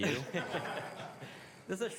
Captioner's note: laughter